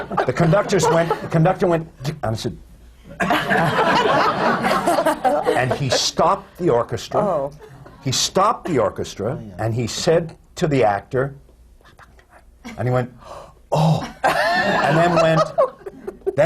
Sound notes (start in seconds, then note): 0.2 laughter; 12.2 whispers; 14.1 laughter